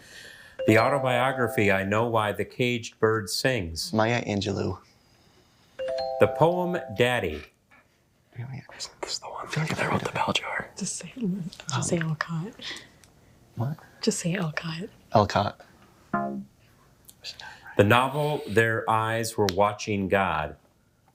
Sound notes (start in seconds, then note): 0.6 musical note chimes; 5.8 musical notes chimes; 8.8 teammates chattering; 16.1 womp chimes